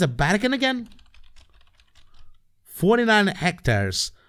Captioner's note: typing on keyboard